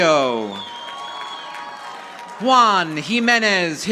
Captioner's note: audience applauding